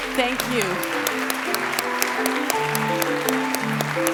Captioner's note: applause